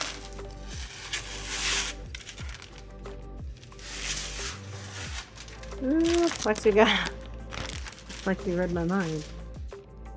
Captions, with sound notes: (drill whirring) Ooh, plexiglass. Like you read my mind.